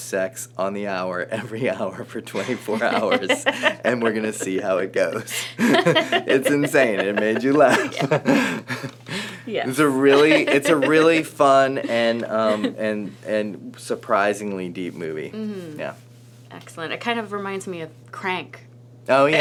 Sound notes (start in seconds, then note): 4.8 laughing